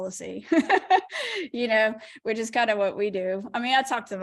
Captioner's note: laughter